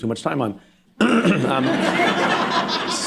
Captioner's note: laughter